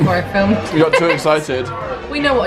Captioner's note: laughs